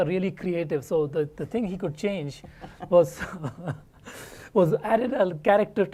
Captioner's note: laugh